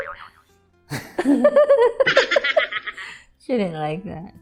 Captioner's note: me chuckling; laughing together